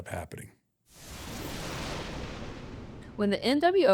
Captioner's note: intense swoosh